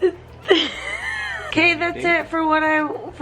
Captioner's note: laughing